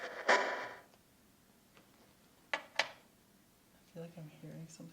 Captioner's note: radio shuffling sounds stop; static crackles